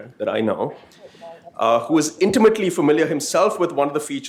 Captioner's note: background chatter